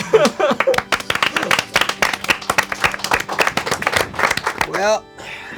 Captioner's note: crowd applauding; organ music playing